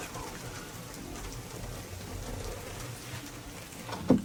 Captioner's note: downpour trickling